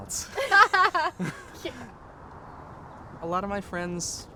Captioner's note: laughter